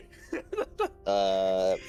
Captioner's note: laughs